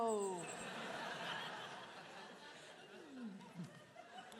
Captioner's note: audience laughing